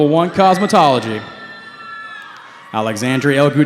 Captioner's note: cheering